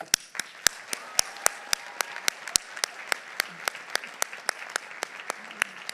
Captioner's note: audience applauding; audience cheering